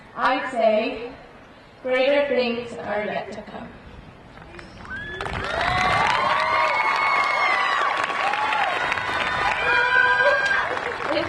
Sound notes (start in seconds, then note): 4.8 crowd applauding; 4.8 crowd cheering